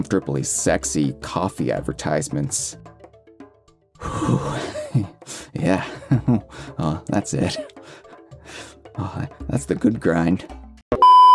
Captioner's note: beeping and static